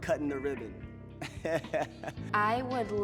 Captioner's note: chuckles